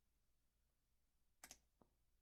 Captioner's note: click